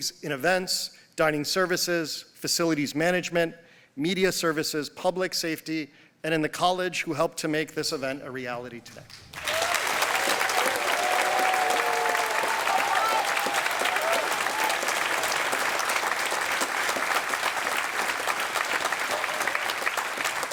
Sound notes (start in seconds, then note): 9.7 applause